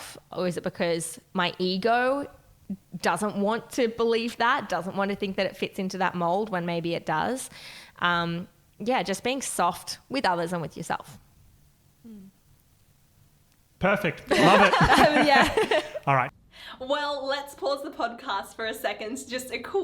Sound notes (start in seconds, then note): 14.2 laughing